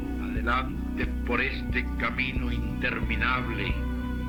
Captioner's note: mystical music; person speaking Spanish